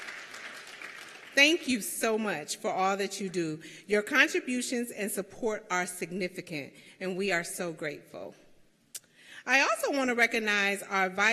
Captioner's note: applause